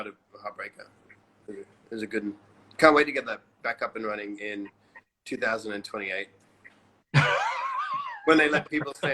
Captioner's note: laughs